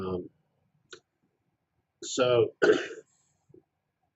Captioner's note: cough